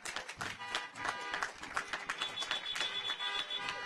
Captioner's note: audience applauds; car horns honking